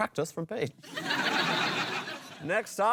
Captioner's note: laughter